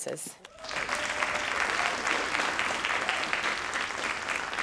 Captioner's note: crowd applauding